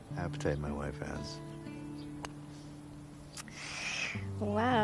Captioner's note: golf club striking ball distantly